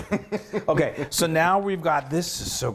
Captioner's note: laughs